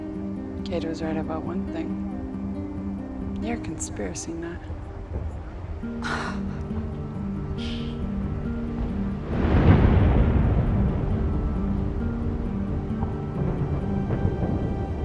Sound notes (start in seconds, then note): 6.0 laughs; 9.1 rumbling